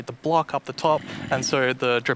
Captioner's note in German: Knurrt